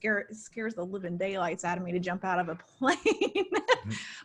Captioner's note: laughs